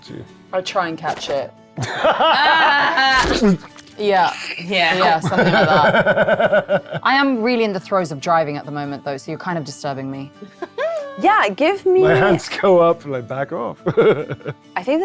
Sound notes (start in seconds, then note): 1.8 players laughing; 5.6 cackling; 13.8 chuckles